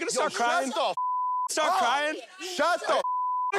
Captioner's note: beep